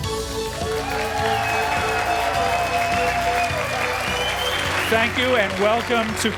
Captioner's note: applause